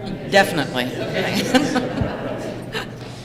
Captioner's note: laughter